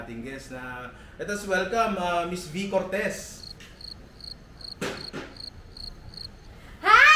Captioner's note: crickets